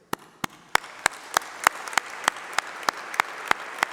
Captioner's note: applause